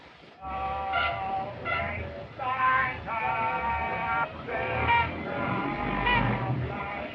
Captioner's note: distant honking and singing